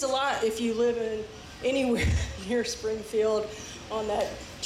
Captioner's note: laughs